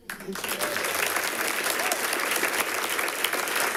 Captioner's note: people clapping